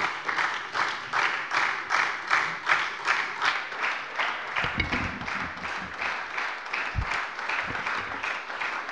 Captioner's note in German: Beifall bei der SPD